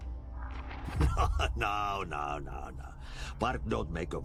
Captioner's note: laughs